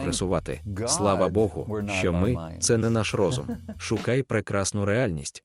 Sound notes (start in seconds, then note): 2.8 laughing